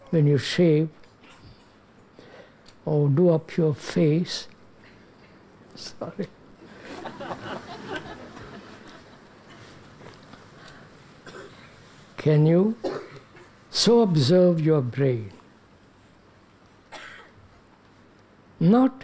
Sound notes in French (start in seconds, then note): 6.7 rires